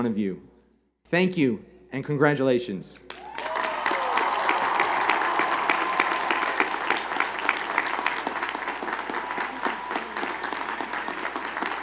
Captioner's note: cheers and Applause